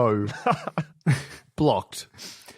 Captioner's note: chuckles